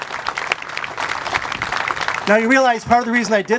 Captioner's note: clapping